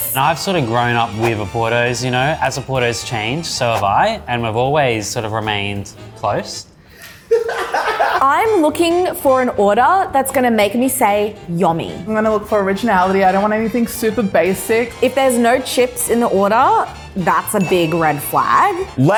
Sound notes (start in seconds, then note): 7.0 laughing